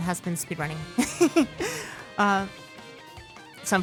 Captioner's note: giggling